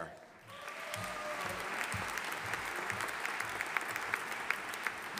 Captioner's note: audience applauding